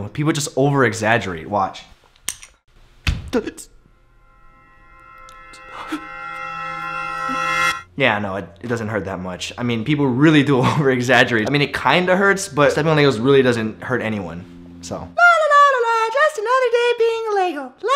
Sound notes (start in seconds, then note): 2.6 Steps on Lego